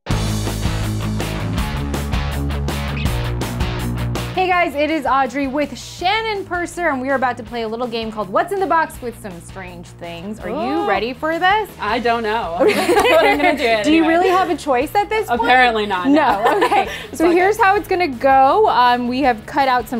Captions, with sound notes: (heavy metal music) - Hey guys, it is Audrey, with Shannon Purser and we are about to play a little game called what's in the box, with some strange things. (hip hop music) - Are you ready for this? - I don't know. (both laughing) - Do you really have a choice at this point? - Apparently not. - No.